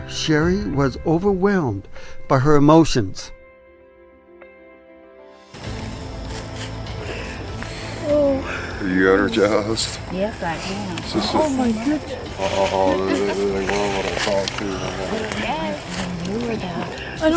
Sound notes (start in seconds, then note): 3.8 reflective music; 8.0 crying